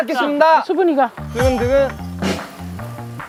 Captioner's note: heart beating